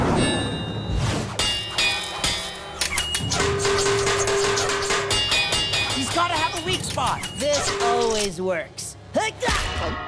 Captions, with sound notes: [clanking] He's gotta have a weak spot. This always works! [grunting, thudding]